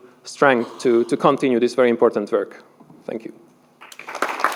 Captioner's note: applause